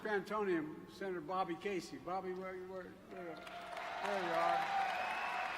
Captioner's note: applause